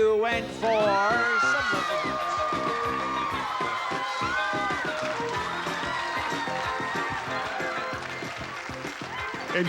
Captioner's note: screams